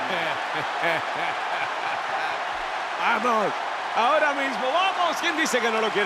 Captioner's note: laugh